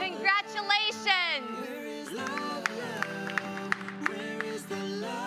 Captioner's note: applause